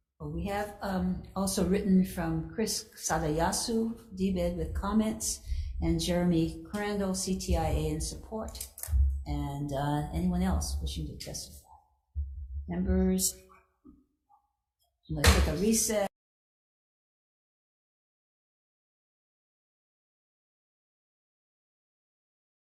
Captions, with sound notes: oh, we have also written from Chris Sadayasu, DBEDT with comments and Jeremy Crandall, CTIA in support. And anyone else wishing to testify? Members? Let's take a recess. (gavel thuds)